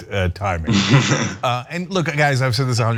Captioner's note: laugh